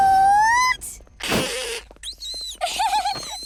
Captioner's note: gasping; hissing